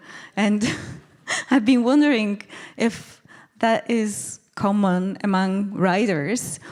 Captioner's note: laughing